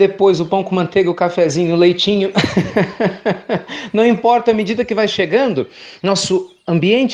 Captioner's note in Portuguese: risos